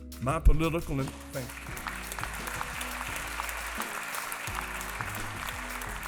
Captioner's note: applause